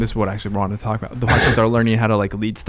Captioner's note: chuckles